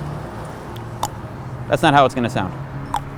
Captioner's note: clicks tongue; clicks tongue